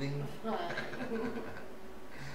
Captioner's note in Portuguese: Risos